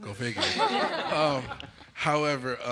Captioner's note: laughter